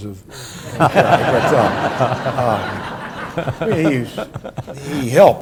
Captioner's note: and audience laughs